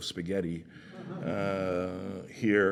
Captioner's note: laughter